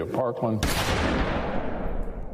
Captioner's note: gunshot